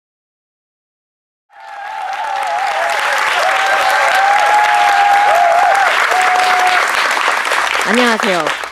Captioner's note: clap